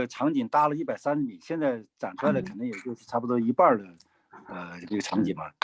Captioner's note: speaking in foreign language